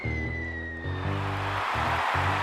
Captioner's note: crowd cheers